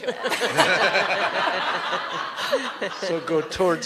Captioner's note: laughter